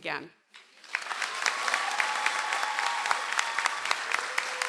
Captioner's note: audience applauds